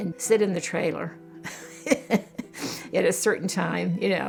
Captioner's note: laughs